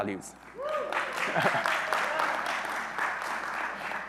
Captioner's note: audience applauding